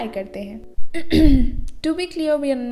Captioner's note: cough